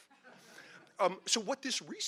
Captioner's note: audience laughing